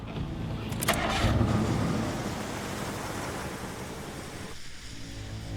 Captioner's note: engine starts and drives away; tense music